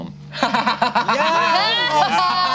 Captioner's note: laughs